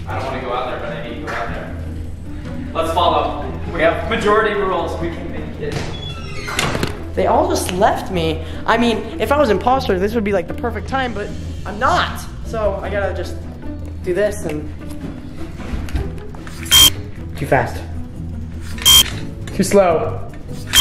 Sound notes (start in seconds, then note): 16.7 beep; 18.8 beep; 20.6 beep